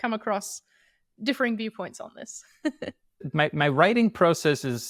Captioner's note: chuckles